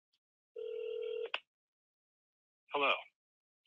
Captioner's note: phone rings